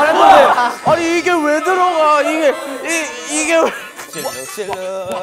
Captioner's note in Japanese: ざわざわ